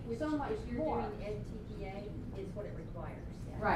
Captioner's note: voiceover